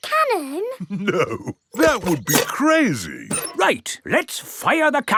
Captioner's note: chuckling